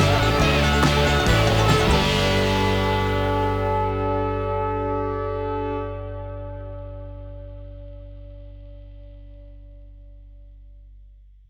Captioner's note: applause